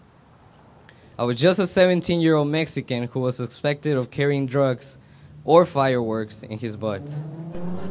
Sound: laughter

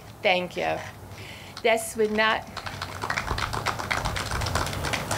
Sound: audience clapping

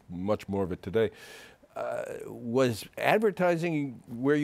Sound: none

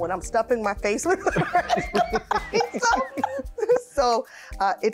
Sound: laughing

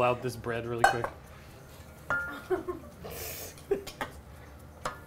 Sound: laughs

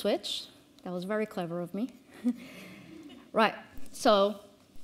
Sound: attendee laughs

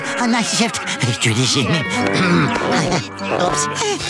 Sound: clears throat

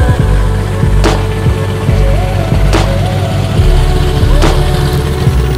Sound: Beechcraft Bonanza for sale engine idle as plane taxis; logo sound

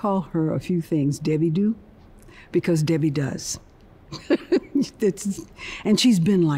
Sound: chuckling

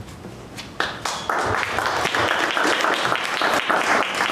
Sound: applause

